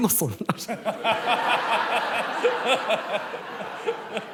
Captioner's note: laughter